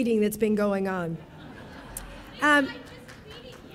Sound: audience laughing

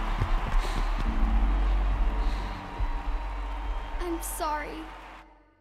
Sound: audience cheering; deep breathing

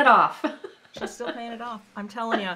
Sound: laughing

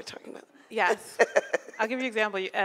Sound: laughing

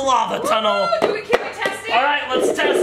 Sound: cheers

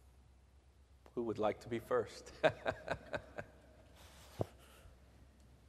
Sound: laughing

